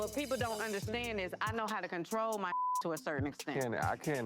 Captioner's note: beep